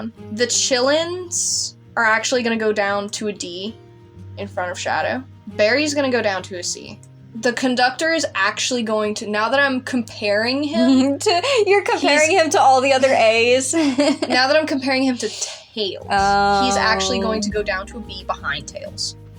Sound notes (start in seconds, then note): 10.7 giggle; 14.0 laugh